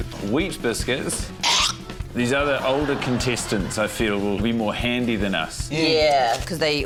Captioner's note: hoiks spit